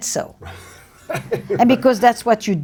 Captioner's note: laughs